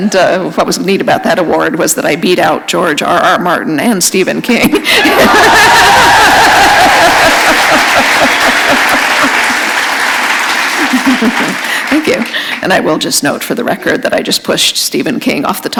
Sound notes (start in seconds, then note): 4.7 laughter; 7.2 applause